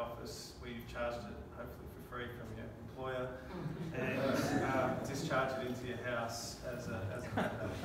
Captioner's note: laughing